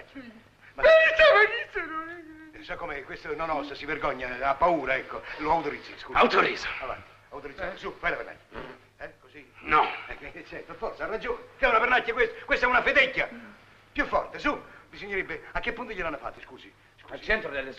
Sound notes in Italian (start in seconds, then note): 8.4 pernacchia